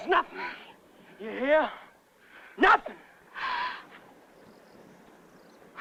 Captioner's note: breathing hard